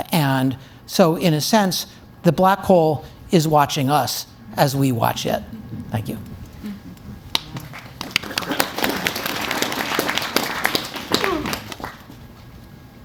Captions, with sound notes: And so in a sense, the black hole is watching us as we watch it. Thank you. (Audience Applauds)